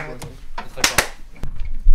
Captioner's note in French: Clap Clap